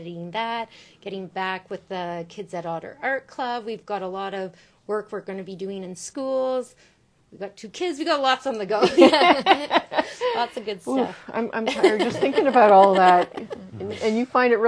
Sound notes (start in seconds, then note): 8.8 laughs